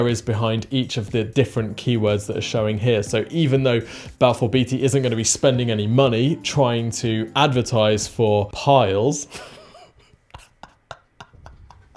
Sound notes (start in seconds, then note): 9.3 snickers